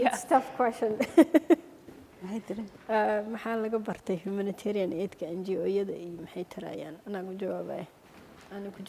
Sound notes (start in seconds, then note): 3.2 speaking foreign language